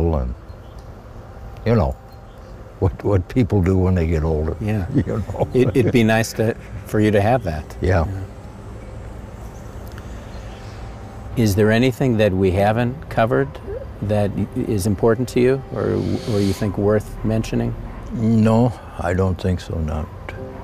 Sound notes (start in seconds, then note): 4.9 laughs